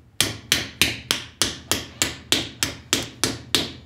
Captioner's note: repeated bright metallic banging